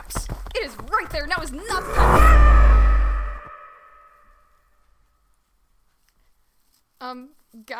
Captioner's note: SFX: Running stops; SFX: Petricormorant cry, then silence